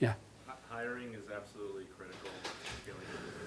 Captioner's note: voiceover